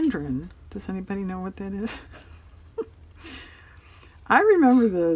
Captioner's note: laughs